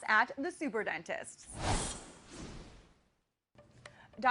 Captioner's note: logo whooshes